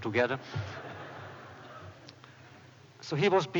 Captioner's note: laughter